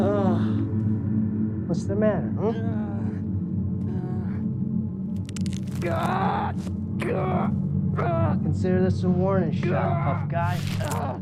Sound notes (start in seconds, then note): 0.1 groans; 5.4 boot crunches; 5.4 yelps